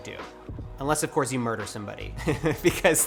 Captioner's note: chuckles